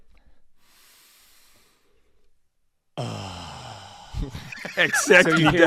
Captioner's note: questionable breathing sound